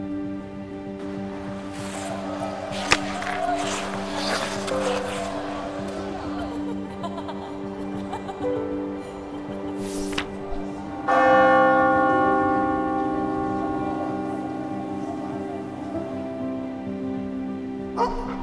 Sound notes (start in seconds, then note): 0.9 crowd chatter; 2.6 skates gliding across ice as puck is hit; 6.0 student laughter; 9.7 page turning; 10.8 Glatfelter bell tolls